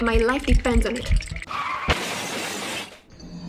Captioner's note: tire squeak - crash!